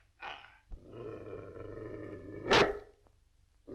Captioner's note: growling; barking